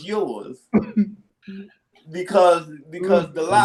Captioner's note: chuckles